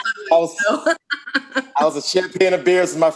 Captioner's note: laughs